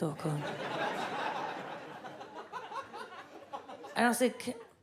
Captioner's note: audience laughs